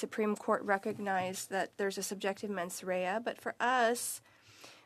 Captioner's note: speaking French